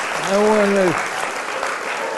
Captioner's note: laughter and applause